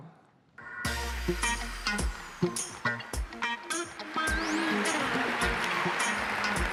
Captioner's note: funky music; audience applauding